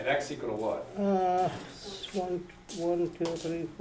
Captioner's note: voiceover